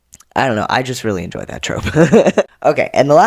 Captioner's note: laugh